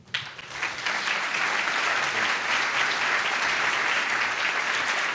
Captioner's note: applause